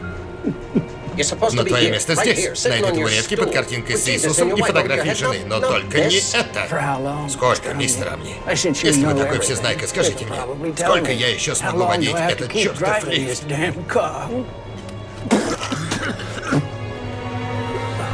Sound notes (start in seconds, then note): 0.4 chuckles; 15.2 wet cough